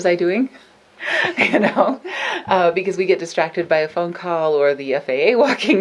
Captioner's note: laughs